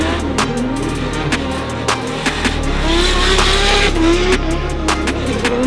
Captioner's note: the car shuts down